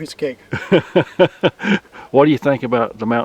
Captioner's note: laughing